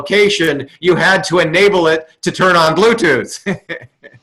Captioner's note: laughs